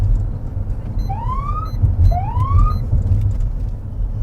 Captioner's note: siren chirps